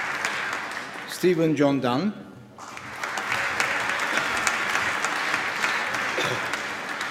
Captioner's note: applause